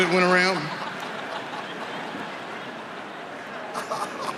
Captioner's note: audience laughing